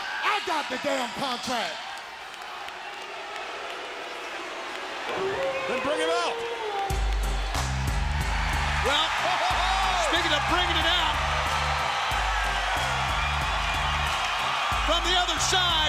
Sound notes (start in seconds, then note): 3.2 crowd boos; 5.1 wolf howls